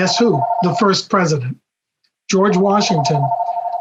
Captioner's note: phone ringing